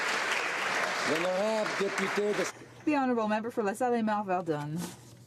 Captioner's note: applause